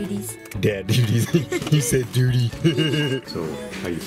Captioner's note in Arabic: يضحك